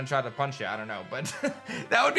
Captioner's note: chuckles